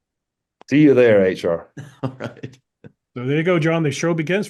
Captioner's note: laugh